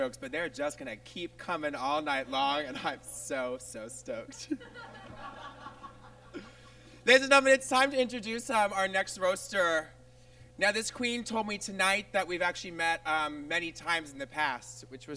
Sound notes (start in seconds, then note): 4.3 audience laughs